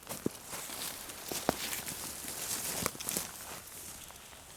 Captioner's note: leaves cracking noises